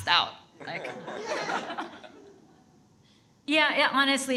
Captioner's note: audience laughs